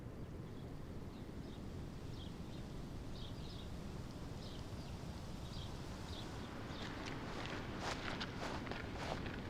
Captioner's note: birds chirping